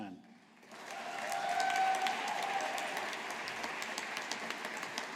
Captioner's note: audience applauding